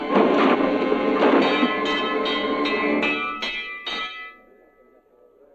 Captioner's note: dramatic orchestral music; bell clanging; indistinct chattering